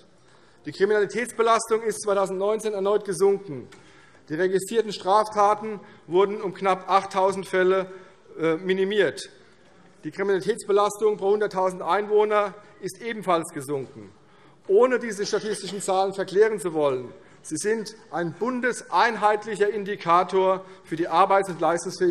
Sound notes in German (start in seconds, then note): none